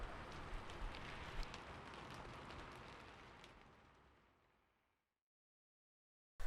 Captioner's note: raining sound